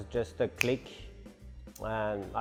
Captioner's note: finger snaps